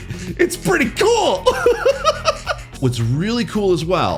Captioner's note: laughs